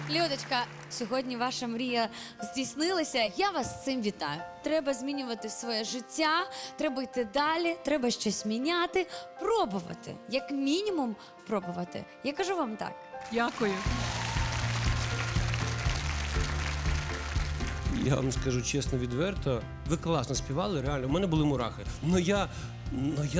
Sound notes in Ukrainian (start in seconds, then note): 15.9 оплески